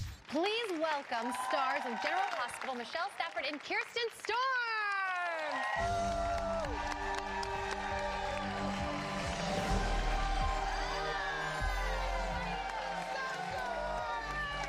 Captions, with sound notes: >> Please welcome stars of "General Hospital," Michelle Stafford and Kirsten Storms! (cheers and applause) >> Hi! >> How are you?